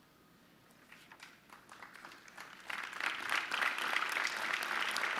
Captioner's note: audience clapping